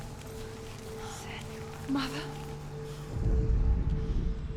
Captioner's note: whisper